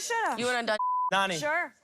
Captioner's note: beep